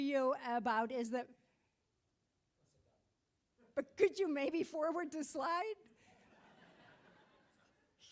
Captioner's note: crowd laughing